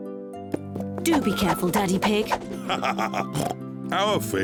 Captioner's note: laughs and oinks